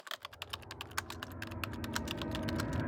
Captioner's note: typing